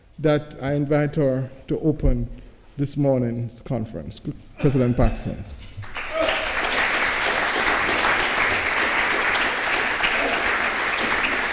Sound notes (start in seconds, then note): 5.8 applause